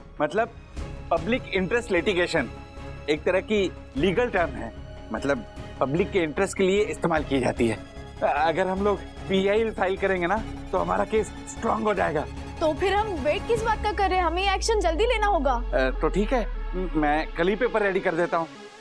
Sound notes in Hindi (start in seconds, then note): none